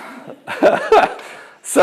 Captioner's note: laughing